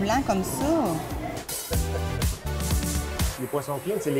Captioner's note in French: rire